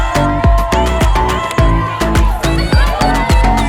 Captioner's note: cheering